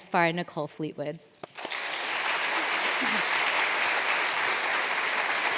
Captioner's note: applause